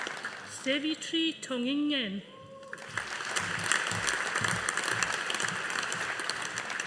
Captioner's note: audience applauding